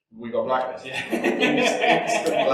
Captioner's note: laughs